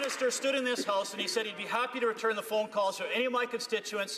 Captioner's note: some Applause